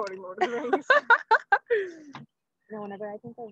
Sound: laughing

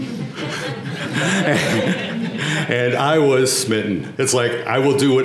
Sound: laugh

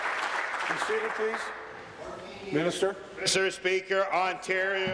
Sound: applause

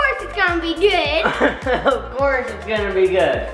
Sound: laughing

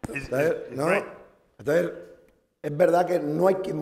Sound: speaking spanish

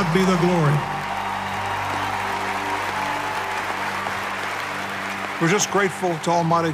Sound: applause and cheering

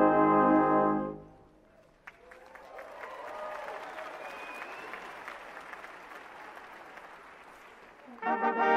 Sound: applause

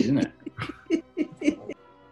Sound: giggling

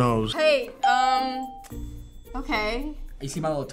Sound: bell rings

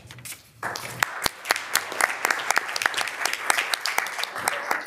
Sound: audience applauding

